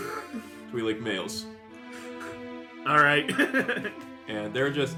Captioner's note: laughs